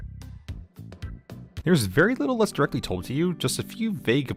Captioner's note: none